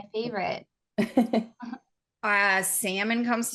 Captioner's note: laughing